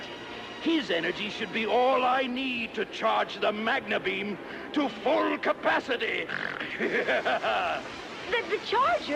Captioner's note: snort